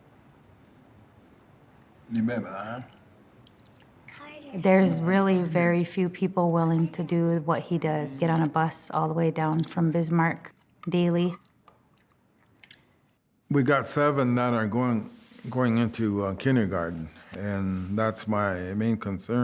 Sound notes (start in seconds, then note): 1.3 speaking Lakota